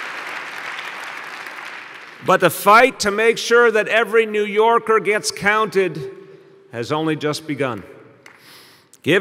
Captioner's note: applause